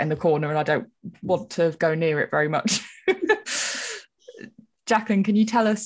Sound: laughs

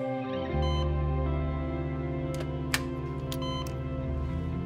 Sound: machine beeping; suspenseful music

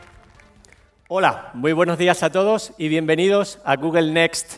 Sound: speaking spanish

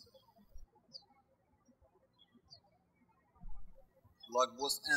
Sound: birds chirping

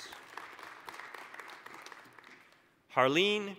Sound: applause

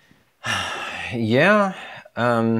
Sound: sighs

